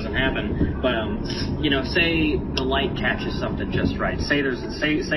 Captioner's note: sniffs